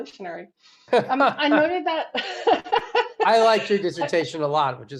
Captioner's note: laughs